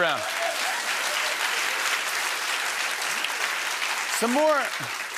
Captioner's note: applause; cheering